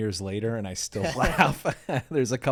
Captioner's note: laughs